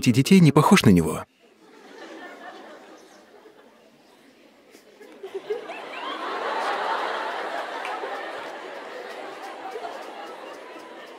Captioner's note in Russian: смех